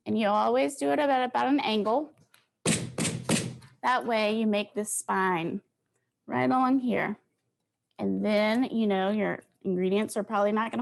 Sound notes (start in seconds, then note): 2.7 bangs